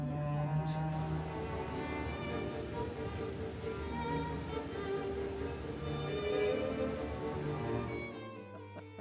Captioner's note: water spraying